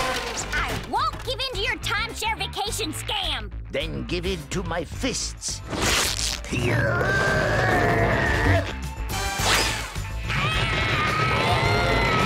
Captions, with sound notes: I won't give in to your timeshare vacation scam. Then give in to my fists. [groaning] [groaning]